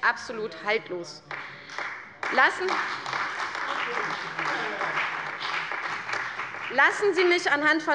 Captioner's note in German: Beifall bei der CDU und dem BÜNDNIS 90/DIE GRÜNEN